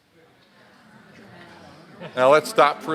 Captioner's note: audience answering